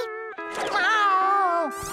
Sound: crying; meowing

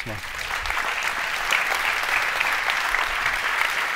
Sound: applause

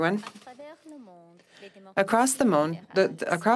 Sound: speaking French

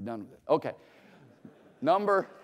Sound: laughter

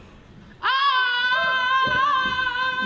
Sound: shrieks

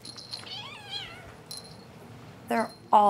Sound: kitten meowing

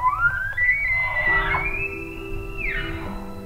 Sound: caller bugling; elk bugling

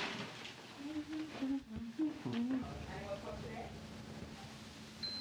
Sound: nurse humming

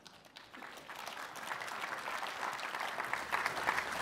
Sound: applause

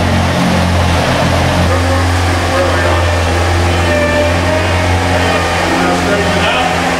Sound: Loud mechanical sounds of Zamboni

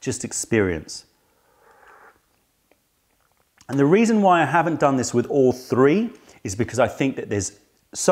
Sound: sips tea

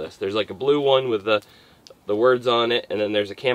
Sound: none

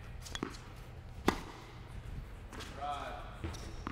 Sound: racket hitting the ball

